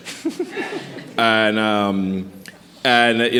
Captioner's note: laughing